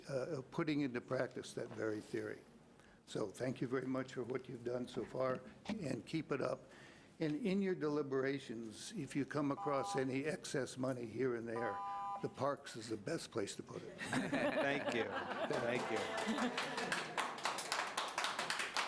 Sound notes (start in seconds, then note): 13.9 laughing; 15.4 clapping